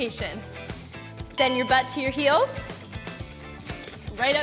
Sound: bell chimes

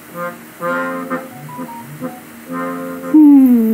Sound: phone notification

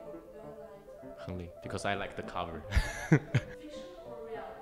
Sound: laughs

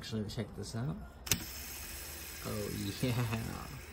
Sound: bearing spinning

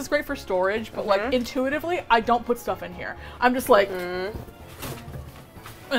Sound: item falls

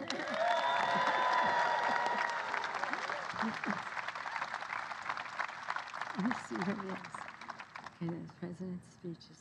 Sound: applause

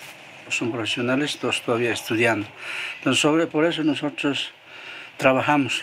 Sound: speaking in foreign language

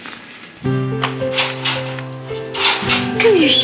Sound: lock clacks

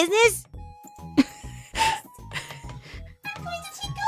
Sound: softly chuckles

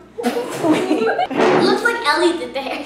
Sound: laughter

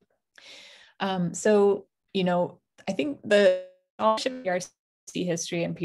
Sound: audio distortion

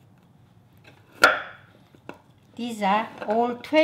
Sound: knife thuds

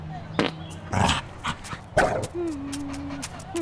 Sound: fart

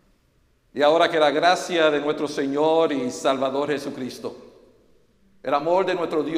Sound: says the blessing in Spanish

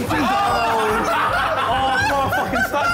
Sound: onlookers laughing

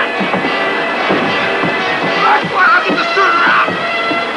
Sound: shouting

